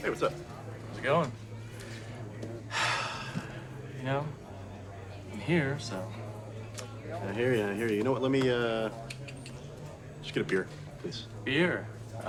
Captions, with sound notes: - Hey, what's up? - How's it going? - (Sighs) You know, I'm here, so. - I hear you. I hear you. You know what, let me (tongue clicks) Just get a beer please. - Beer.